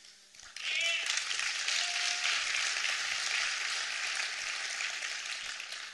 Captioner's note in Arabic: تصفيق